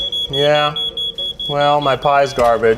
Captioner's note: beeping